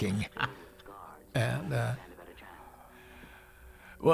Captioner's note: laughing